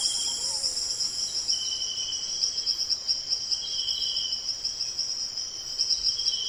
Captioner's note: birds chirping; insects chirping